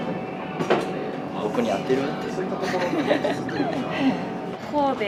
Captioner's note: laughs